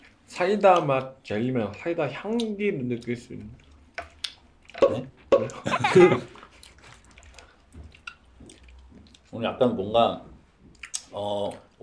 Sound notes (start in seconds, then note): 5.6 giggle